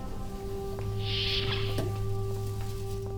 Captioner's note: door opens